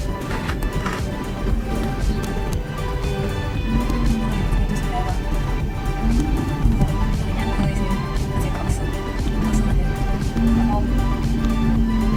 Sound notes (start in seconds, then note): none